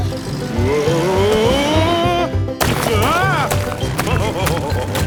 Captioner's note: laughing